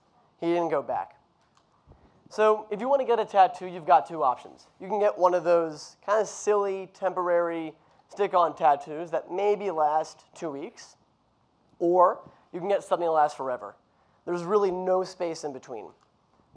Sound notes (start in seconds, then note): none